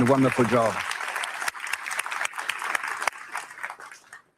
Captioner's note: audience clapping